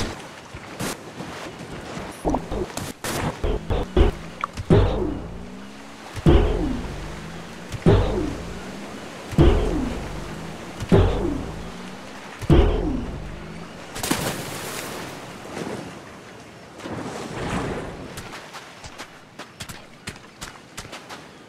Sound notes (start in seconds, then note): 3.4 jump sound; 13.1 fall into water